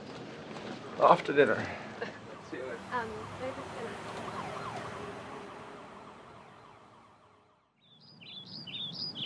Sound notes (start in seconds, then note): 2.2 a siren wails; 7.8 birds sing